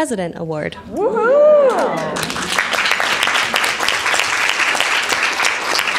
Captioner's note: audience applause